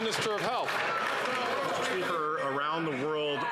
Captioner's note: some Applause